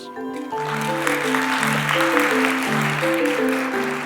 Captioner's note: applause